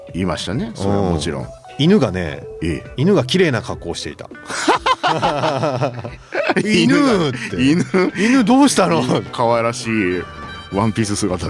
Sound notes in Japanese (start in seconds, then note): 4.4 笑い